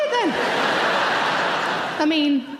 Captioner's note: audience laughing loudly